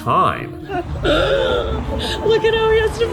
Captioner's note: gasps